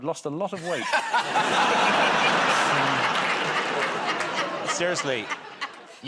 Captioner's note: laughter